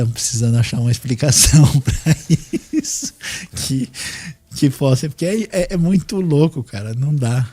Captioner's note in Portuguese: risadas